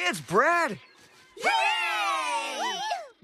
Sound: distant Cheering

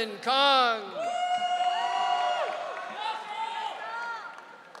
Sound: audience cheering

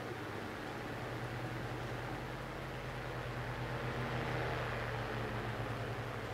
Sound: fan

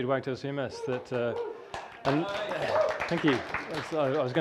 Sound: audience cheering

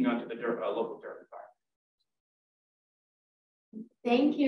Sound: speaks faintly

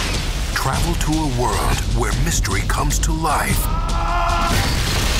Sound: voiceover

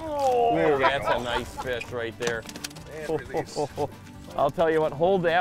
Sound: laughing

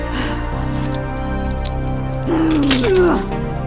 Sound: sighs; handcuffs creaking

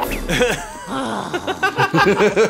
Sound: growls

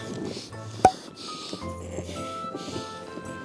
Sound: heavy breathing >///<

